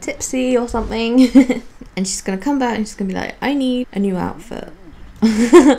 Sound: giggles; laughs

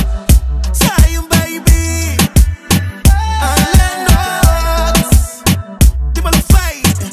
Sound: eoh-eoh-eoh

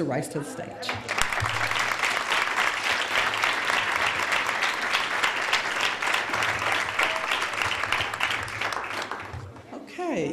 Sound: applause

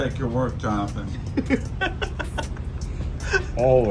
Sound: laughs

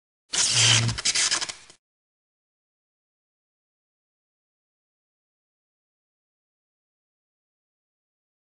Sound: sparking sound

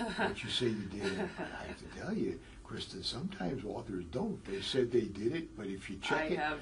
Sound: laugh

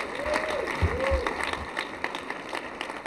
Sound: applause

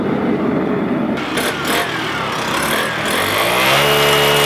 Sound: saw motor

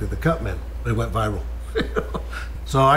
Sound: laughs

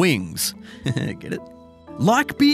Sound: chuckles

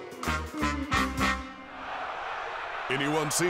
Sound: crowd cheering

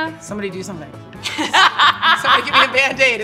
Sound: laughter

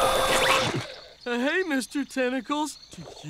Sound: horn honking, screaming; horse neighing

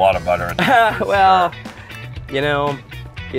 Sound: laughs

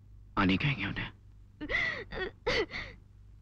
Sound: sobbing

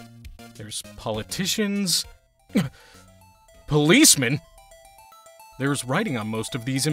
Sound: surprised grunt

